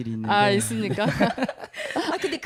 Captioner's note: 웃음